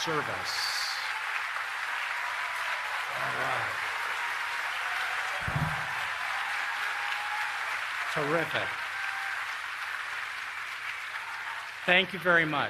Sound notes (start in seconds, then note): 2.1 applause